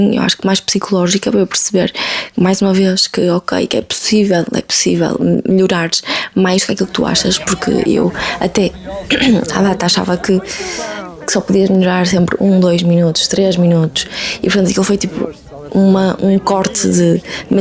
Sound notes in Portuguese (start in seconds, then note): 6.8 limpando a garganta; 11.2 risadas